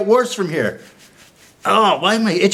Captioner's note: scratching